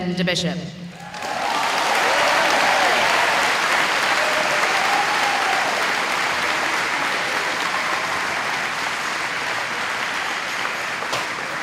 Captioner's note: applause